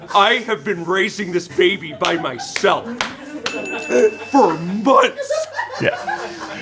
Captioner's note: laughter